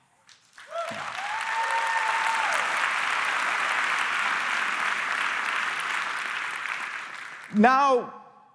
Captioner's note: applause